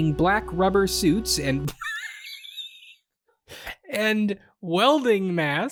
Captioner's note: laughs